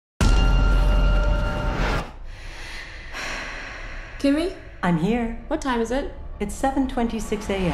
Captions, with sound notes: [breathing heavily] - Kimi? - I'm here. - What time is it? - It's 7:26 a.m.